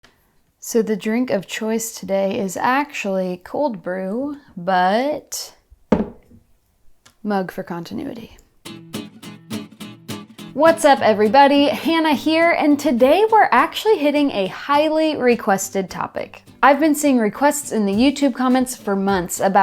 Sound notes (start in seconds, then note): 5.9 mug clacking; 8.9 lighthearted music